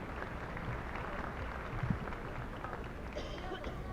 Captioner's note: applause